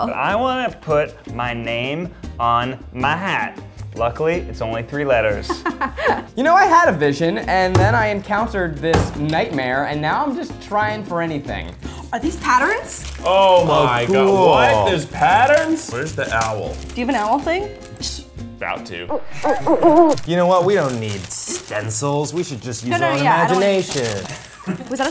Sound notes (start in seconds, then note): 19.1 owl hooting